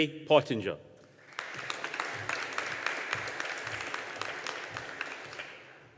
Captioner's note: audience applauding